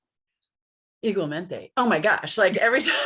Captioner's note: foreign language